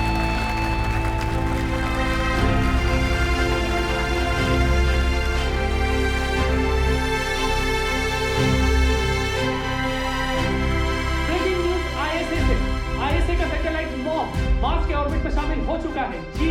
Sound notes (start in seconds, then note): 11.3 news on TV